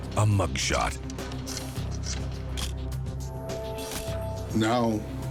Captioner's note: camera shutter click